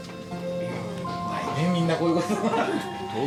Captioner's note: all chuckle